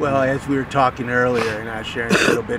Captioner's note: sniffs; coughs